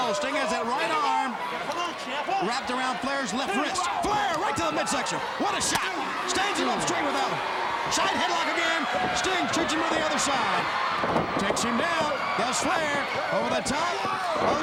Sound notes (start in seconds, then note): 5.9 chop striking; 11.1 Sting thudding on ring